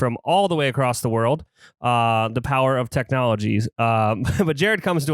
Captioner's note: laughs